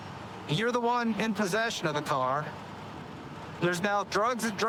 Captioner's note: none